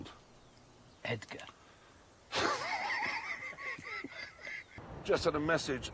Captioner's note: jeremy laughs wheezily